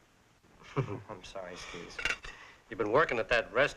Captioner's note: chuckling